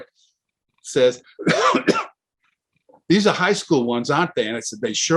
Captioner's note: coughs